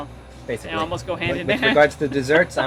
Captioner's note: laughs